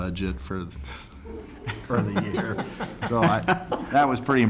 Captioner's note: laughter